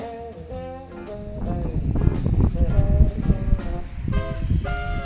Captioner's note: wind